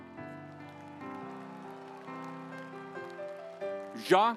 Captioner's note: audience applauds